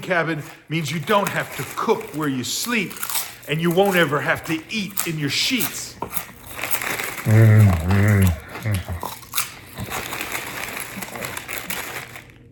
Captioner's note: eating chips